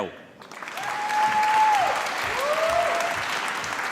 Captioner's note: applause